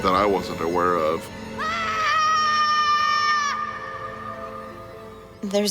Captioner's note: Andrew screams